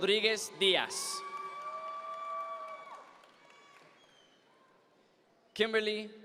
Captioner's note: audience members cheer